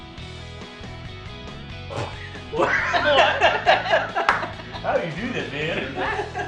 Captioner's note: jazzy upbeat music; laughter